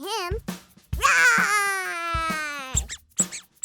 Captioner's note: playful roar; high pitched squeaking